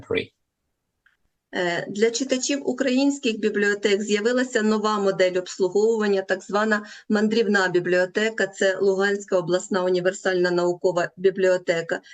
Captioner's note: foreign language